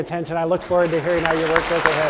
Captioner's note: applause